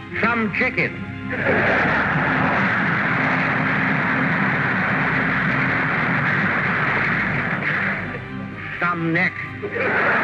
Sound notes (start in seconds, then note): 1.1 crowd laughs